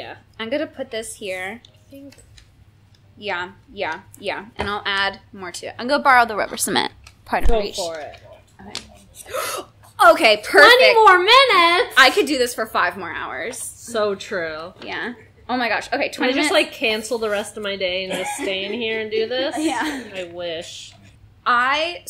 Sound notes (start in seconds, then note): 9.2 gasp